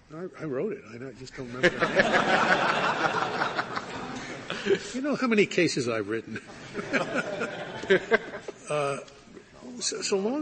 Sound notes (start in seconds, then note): 1.6 laughter